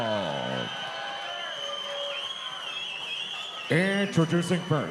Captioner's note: audience cheering